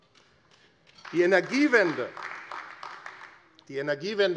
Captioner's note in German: Beifall AfD